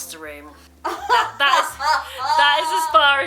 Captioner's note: laughs